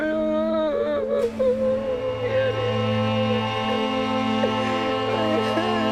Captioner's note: wailing